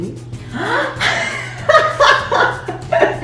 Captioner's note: giggles